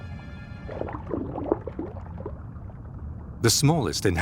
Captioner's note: water sloshes